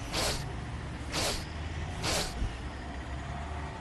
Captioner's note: sniffing